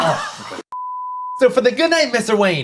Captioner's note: beep